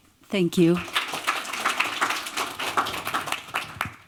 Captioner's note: applause